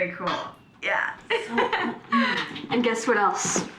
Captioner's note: laughing